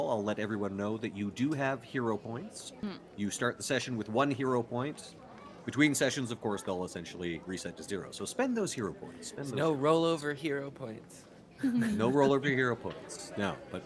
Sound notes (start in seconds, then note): 11.6 Violette laughs; 11.7 Cornette laughs